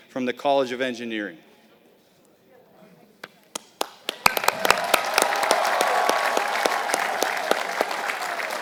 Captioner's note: applause